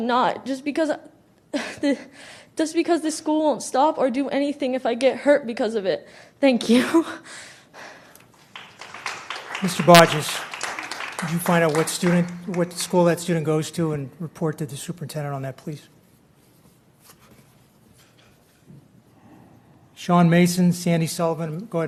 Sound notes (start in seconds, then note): 10.2 applause